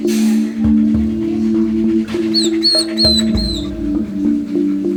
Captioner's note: Gordon whining